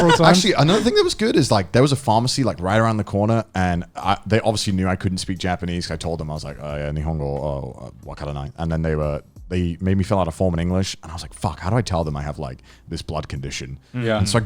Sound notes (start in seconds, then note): 7.6 speaks in foreign language